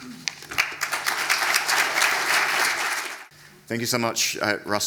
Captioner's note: attendees applauding